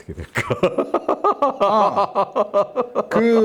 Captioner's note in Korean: 웃음